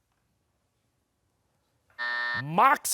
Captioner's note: buzzer